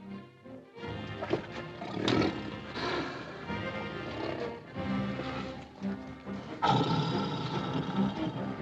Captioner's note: suspenseful music; tiger growling